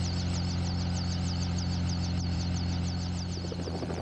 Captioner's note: helicopter whirs